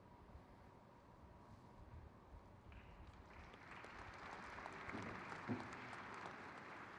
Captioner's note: crowd claps